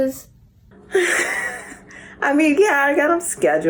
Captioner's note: Dee laughs